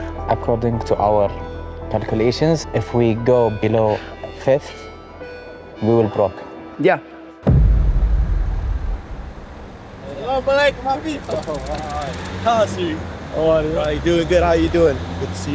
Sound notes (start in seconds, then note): 11.2 indistinct chatter